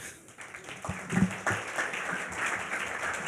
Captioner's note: applauding